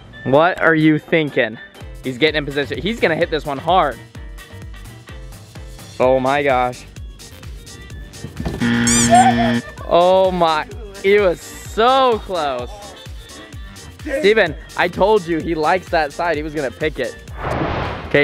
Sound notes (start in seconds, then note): 7.1 upbeat music; 8.6 buzzer ringing; 12.5 upbeat music